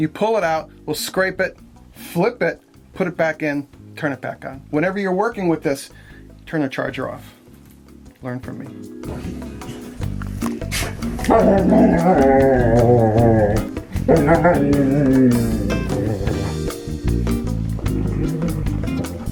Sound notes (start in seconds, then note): 9.4 playful music; 11.1 dogs growling and moaning